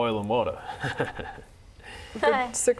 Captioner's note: laughs to himself